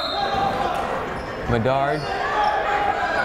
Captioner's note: whistle blowing